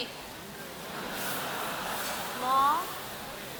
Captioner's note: audience laughter